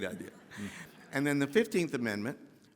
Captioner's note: audience laughing